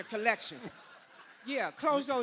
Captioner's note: laughter